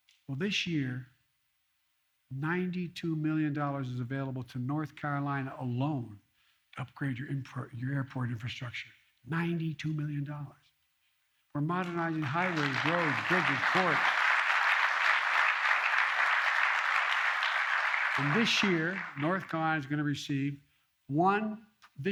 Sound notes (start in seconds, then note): 14.5 applause